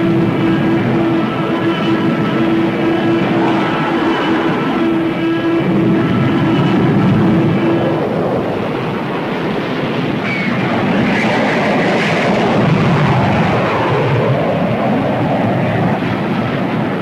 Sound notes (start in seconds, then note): 0.0 explosion booms; 0.3 plane whooshing; 9.3 plane whooshing; 12.8 explosions booming